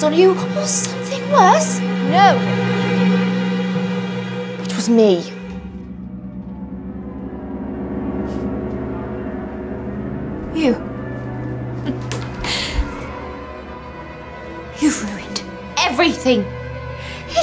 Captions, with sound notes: or something worse? - No! It was me. (tense music) - You? (laughs softly) You've ruined everything!